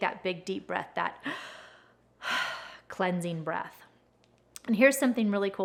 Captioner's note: breathes